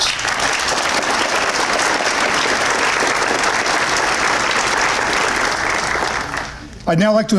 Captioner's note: applause